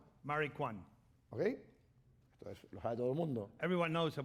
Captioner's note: speaking spanish